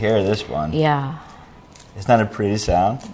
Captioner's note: crackling